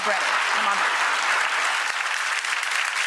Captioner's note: audience applauding